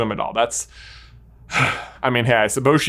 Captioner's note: sighs